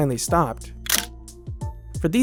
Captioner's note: click